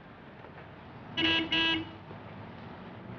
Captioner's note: honking